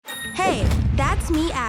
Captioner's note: bell dinging